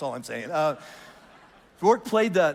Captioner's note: congregation laughs lightly